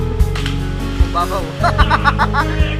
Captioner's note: laughs